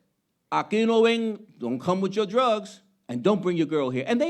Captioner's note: speaking Spanish